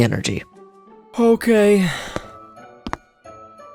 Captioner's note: yawns